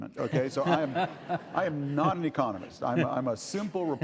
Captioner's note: laughing